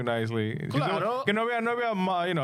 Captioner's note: speaking In Foreign Language